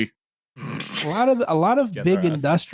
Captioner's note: snorts